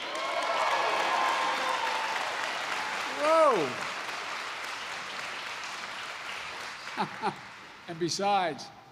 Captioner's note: applause; laughs